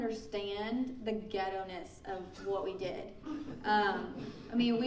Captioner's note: laughing